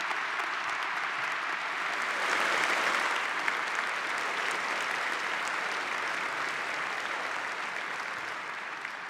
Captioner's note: applause